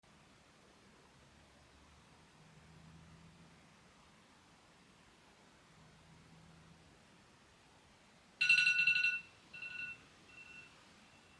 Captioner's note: alarm sounds